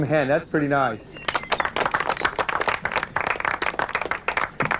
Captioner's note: applause